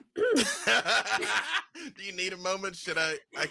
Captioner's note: laughs